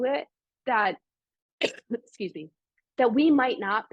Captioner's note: coughs